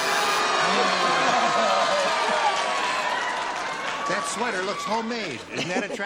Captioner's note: booing